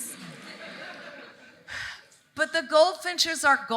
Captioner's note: audience laughing